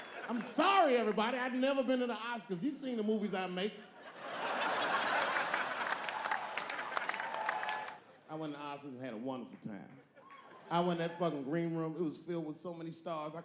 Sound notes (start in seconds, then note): 3.9 audience laughing